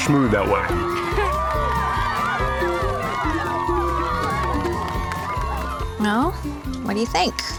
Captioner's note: cheering